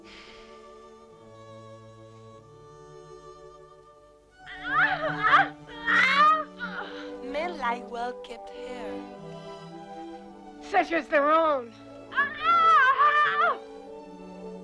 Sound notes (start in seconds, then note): 0.0 Hundra sighs; 4.8 Hundra shouting; 12.1 Hundra screams